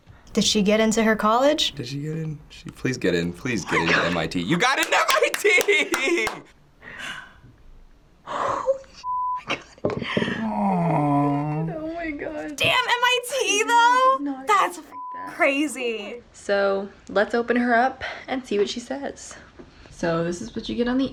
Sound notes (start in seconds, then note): 4.6 claps; 6.9 gasps